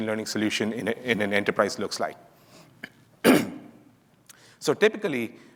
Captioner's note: clears throat